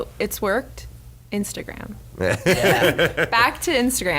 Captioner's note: laughs